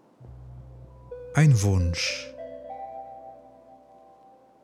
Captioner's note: german